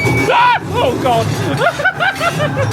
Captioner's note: screaming; laughs